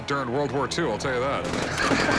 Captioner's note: laughs